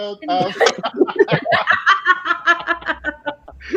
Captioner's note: all laughing